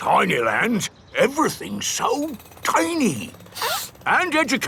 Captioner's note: sniffs